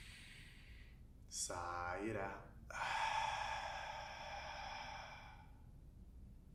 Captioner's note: inward breath; outward breath